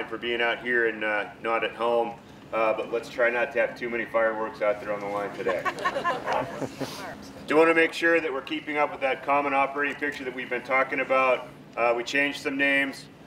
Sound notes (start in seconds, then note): 5.3 laughter